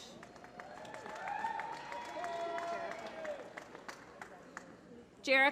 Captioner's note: applause